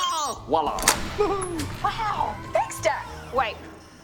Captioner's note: chuckles